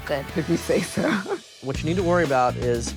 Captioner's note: chuckles